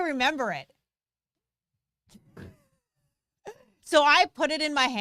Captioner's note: both chuckling